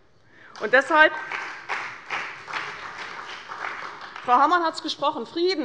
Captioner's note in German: Beifall bei der CDU und dem BÜNDNIS 90/DIE GRÜNEN